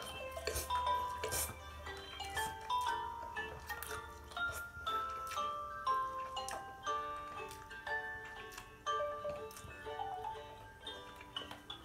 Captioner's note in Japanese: ペヤング焼きそばを啜る音